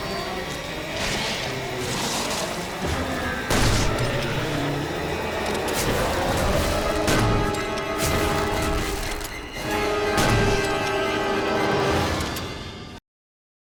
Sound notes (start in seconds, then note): 0.3 tense violin music; 3.4 gunshots booming